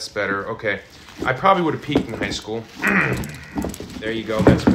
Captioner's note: clears throat